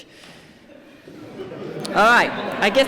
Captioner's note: laughter